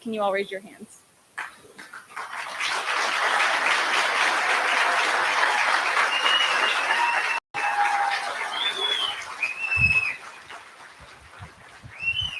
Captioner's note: applause